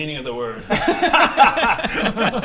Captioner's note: laughs